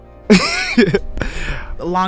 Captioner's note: interviewee laughing